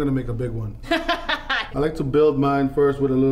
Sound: laughing

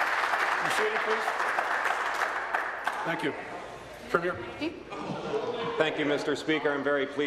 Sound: applause

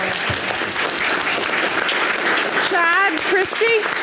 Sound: audience applause

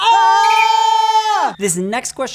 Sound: both screaming

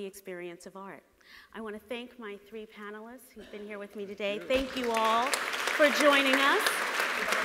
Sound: audience applauds

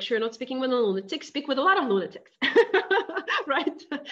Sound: laughing

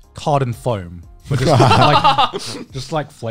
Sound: laughing

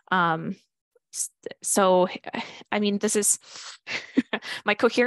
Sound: chuckles

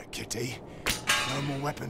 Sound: swords clatter

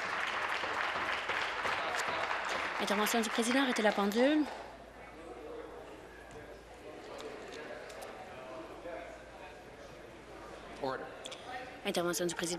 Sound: applause

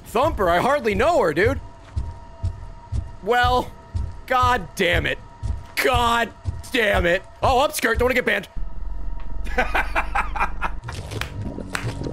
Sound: laughs

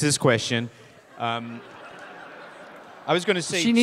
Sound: audience laughing

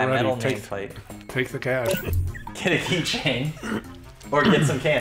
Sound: chuckles

